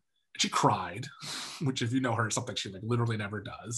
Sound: chuckles

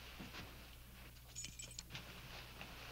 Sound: keys clicking

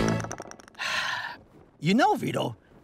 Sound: sighing

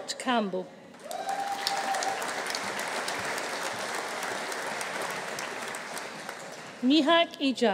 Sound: audience applauding; audience cheering

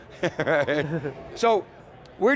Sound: laughing

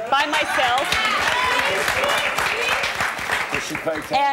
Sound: audience clapping

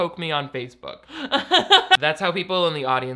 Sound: laughs

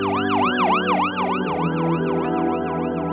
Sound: siren sound

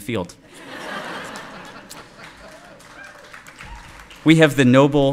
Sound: audience laughing

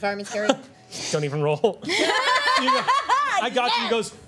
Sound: laughter

